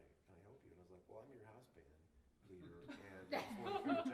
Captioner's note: laughter